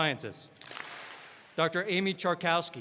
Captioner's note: all clap